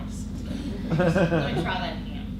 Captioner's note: audience chuckles